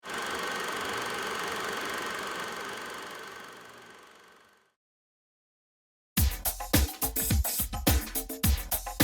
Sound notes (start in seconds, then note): 0.0 projector whirring; 6.2 upbeat music